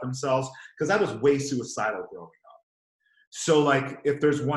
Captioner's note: murmurs